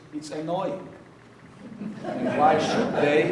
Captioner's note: audience laughing